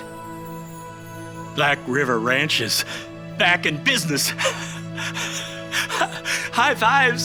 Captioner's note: gentle music; laughs